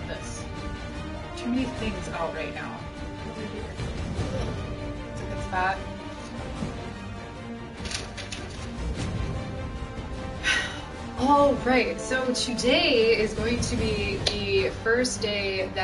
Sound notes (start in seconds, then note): 10.3 sighs